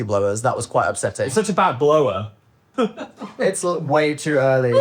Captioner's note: chuckles